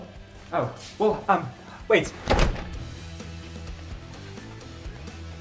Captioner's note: door thumps; upbeat music continues